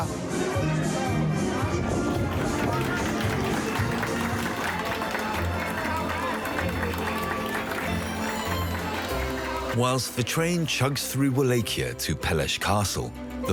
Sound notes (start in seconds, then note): 1.7 traditional music; 3.7 crowd applauds